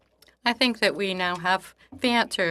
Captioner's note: speaking in French